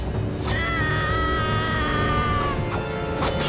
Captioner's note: screaming